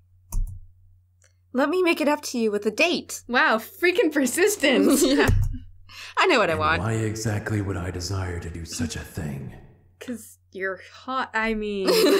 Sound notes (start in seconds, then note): 4.6 laughing; 6.5 game audio